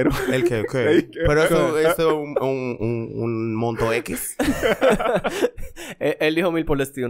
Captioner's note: laughs